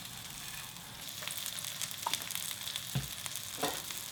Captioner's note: oil sizzles